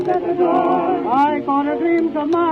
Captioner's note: radio still playing